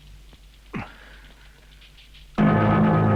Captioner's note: bandit grunting; tense music